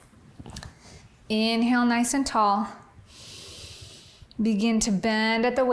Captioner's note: inhales